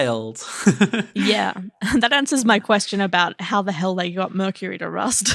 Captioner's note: laughing